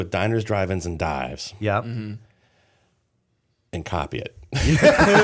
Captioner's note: laughter